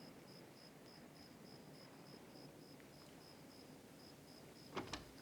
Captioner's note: cicadas chirping